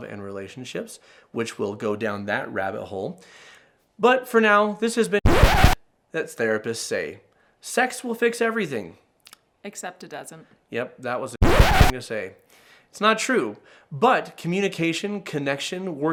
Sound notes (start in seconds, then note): 5.2 scratchy sound; 11.4 scratchy sound